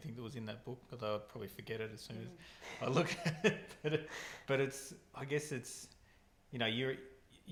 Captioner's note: laughing